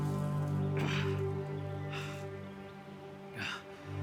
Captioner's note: Arawn grunting